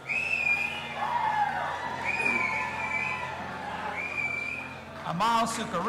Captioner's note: audience applauding and cheering